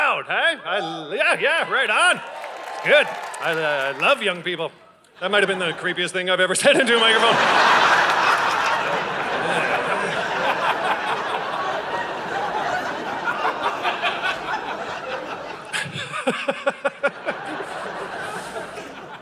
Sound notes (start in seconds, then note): 1.3 audience cheers; 7.4 audience laughing